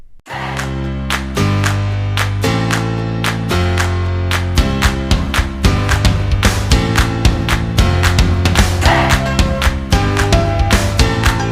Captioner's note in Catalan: Aplaudiment